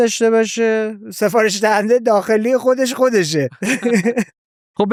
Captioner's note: laughs